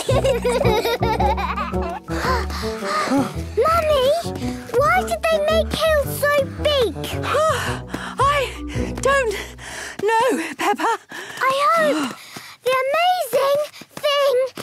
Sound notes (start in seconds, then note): 0.0 children giggling; 2.1 panting; 7.2 panting